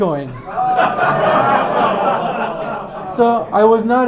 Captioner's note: audience laughs